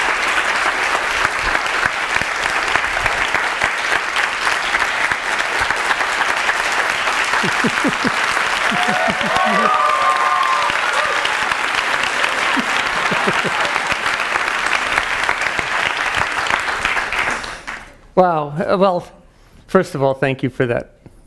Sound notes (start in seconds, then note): 0.1 audience clapping; 8.0 laughing